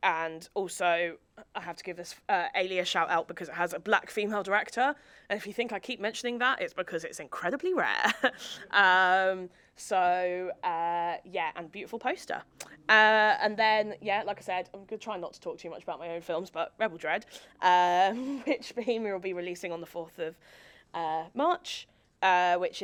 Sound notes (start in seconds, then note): 8.0 chuckles; 8.6 audience chuckling